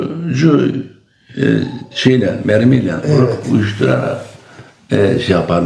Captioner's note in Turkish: boğazını temizler